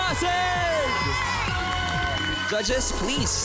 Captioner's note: cheering, applause